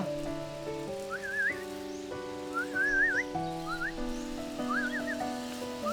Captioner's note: whistles